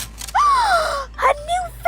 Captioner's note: gasps